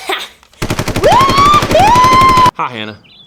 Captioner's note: gunshots, whooping